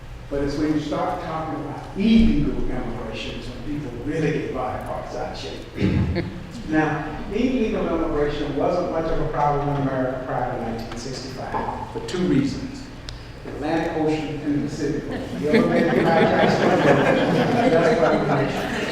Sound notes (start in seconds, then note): 15.0 audience laughs